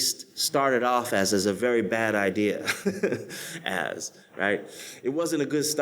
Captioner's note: laughs